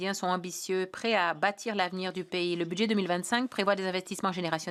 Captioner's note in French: voix de l'interprète